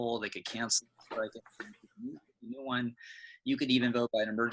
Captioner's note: crackling drowns out